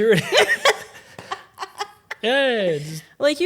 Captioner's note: both laughing